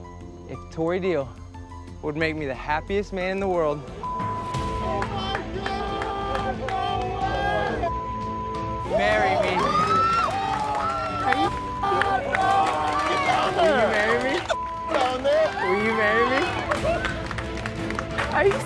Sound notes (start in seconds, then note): 4.0 beep; 7.8 beep; 9.8 cheering; 12.0 beep; 14.5 beep